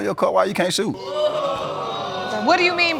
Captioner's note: audience exclaiming